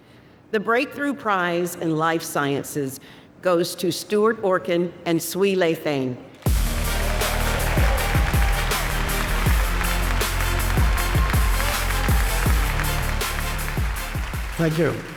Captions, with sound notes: - The Breakthrough Prize in Life Sciences goes to Stuart Orkin and Swee Lay Thein. (warm upbeat music) (audience cheers and applauds) - Thank you.